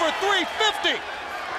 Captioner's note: crowd cheering